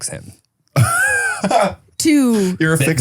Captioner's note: laughing